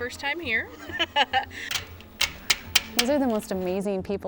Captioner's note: laughs